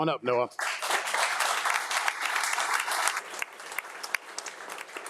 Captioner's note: audience applauding